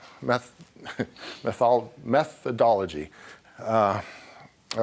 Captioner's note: laughing